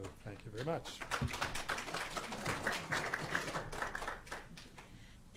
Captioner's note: audience applauding